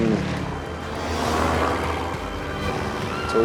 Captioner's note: airplane engine roaring